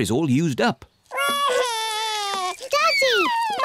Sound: wails

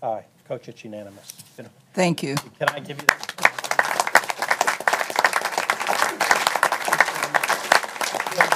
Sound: applause

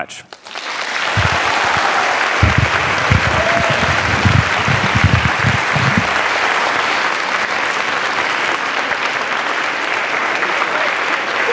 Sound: applause

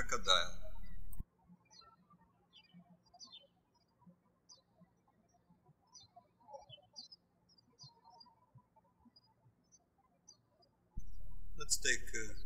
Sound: birds chirping

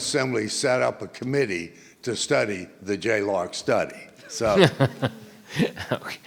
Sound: laughs

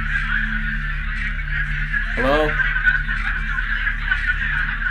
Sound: chatter continues

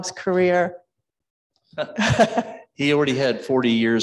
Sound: chuckles

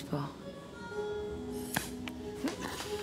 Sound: air hisses

